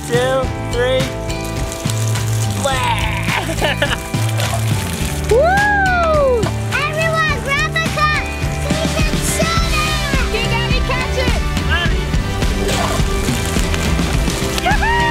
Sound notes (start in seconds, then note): 2.6 laughs; 5.3 screaming